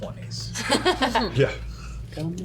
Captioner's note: laughs